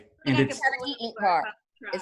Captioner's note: imitating beeping